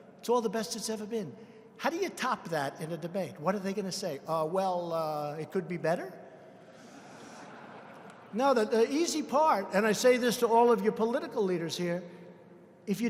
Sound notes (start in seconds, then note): 6.6 laughter